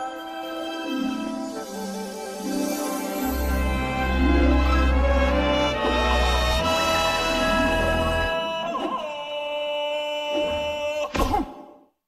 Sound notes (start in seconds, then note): 5.1 Tarzan yell; 10.3 man grunts